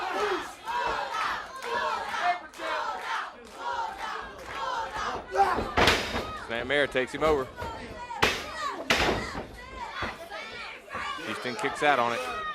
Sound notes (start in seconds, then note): 2.5 crowd cheering; 7.7 crowd chatter